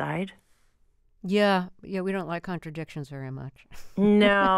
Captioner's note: laughter